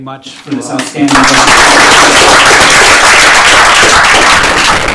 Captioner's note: applause